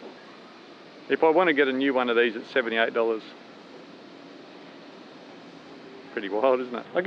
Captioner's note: none